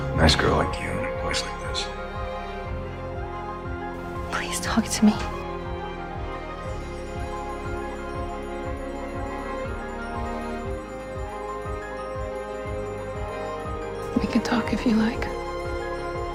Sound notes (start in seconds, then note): 4.4 voiceover